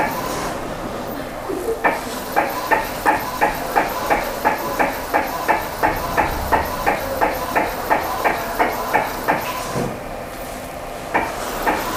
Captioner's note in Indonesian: suara mesin printer